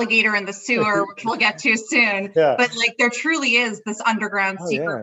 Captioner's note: laughing